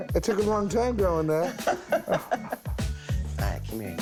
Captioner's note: laughs